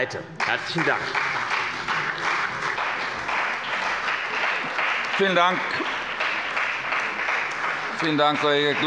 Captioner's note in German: Beifall bei dem BÜNDNIS 90/DIE GRÜNEN und der CDU